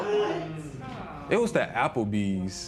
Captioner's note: spectators murmur